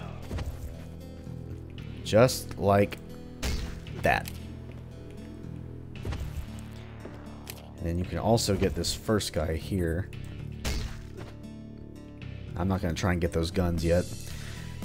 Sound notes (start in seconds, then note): 3.4 thwack; 12.3 thwack